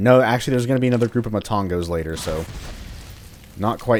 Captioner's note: fwoosh